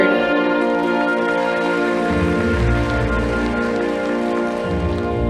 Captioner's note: audience applauding